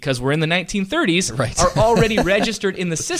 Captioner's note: laughter